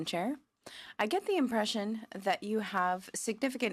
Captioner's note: speaking French